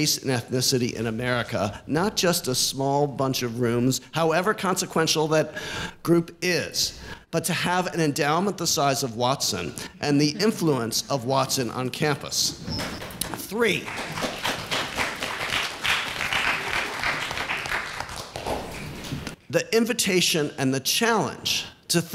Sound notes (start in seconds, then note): 13.6 applause